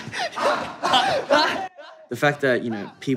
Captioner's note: laughter